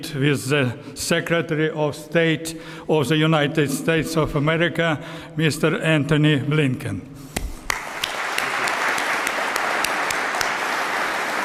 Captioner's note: applause